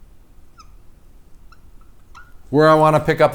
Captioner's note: marker scraping